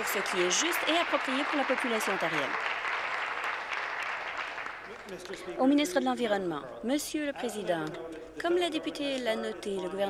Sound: applause

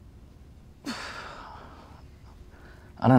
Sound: sighs

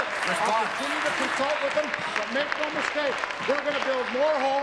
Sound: applause

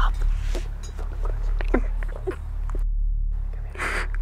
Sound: Bryce sobbing

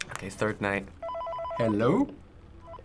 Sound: in game: phone rings

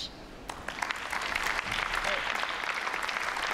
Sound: applause

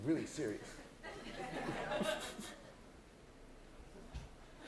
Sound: laughter

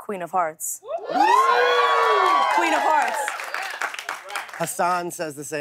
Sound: cheers and applause

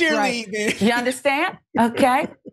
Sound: laugh

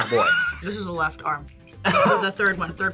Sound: laughs

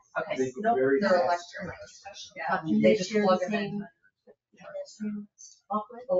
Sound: people speak distantly

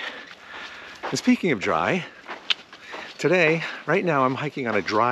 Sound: clicks tongue

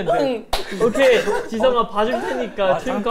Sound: clap

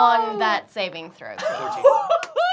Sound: laughing

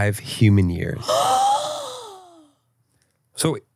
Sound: gasps

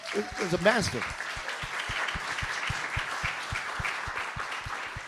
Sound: applause

